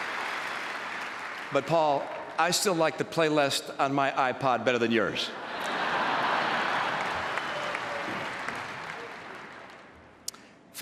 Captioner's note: applause